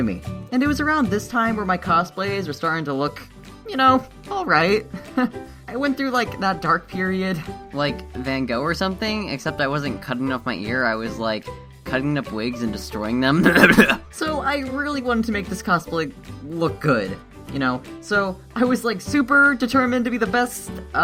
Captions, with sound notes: And it was around this time where my cosplays were starting to look, you know, alright. I went through, like, that dark period. Like, Van Gogh or something except I wasn't cutting off my ear I was, like, cutting up wigs and destroying them. *cough cough cough* So I really wanted to make this cosplay... look good. You know, so I was, like, super determined to be the best... uh...